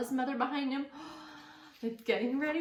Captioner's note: gasps